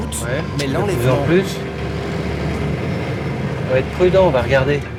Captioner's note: French spoken audio